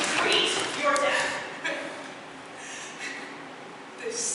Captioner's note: CLYTEMNESTRA laughs bitterly